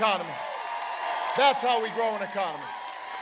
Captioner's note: applause